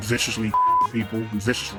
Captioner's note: beep